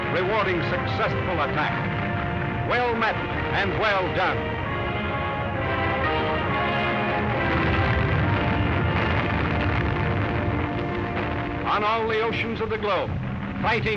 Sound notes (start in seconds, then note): 5.8 cannonfire; 5.8 dramatic music